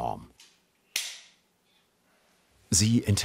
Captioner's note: quiet click